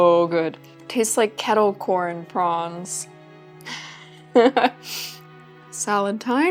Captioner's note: laughs